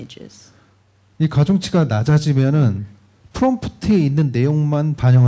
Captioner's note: speaking korean